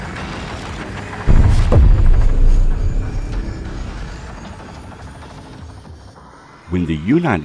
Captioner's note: explosion booming; upbeat music continues